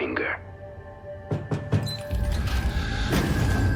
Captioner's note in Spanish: llamando a la puerta